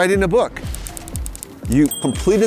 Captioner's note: keys click